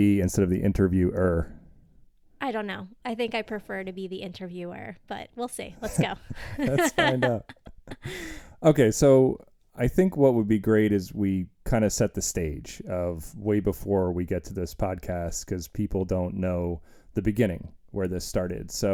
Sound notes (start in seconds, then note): 5.8 laughing